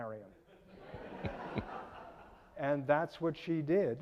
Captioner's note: audience laughing